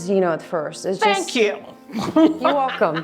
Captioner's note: laughs